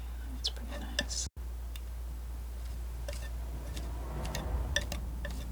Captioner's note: tapping